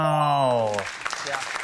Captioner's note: applauding